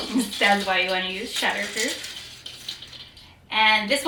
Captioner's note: giggles